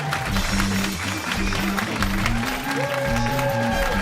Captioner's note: cheers and applause